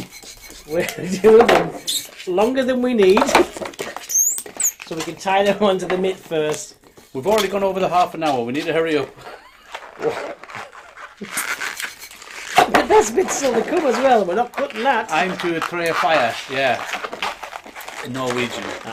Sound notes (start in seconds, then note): 9.1 laughing